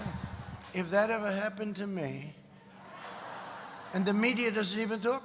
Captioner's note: laughter